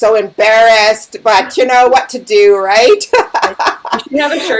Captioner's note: laughing